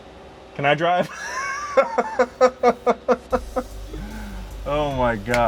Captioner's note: joyfully laughing